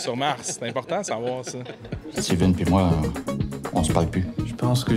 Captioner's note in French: rires